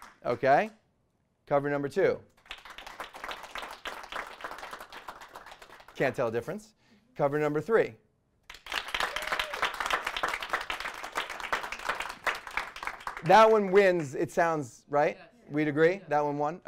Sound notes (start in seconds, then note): 0.0 applause; 2.3 stronger applause; 8.4 applause; 8.8 cheering